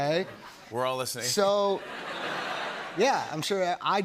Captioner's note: laughter